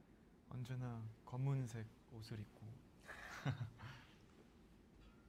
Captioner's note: laughs